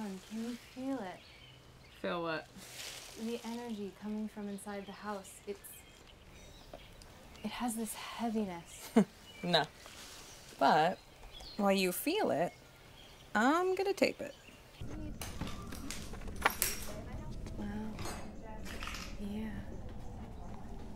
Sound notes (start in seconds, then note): 8.8 chuckles; 16.6 chatter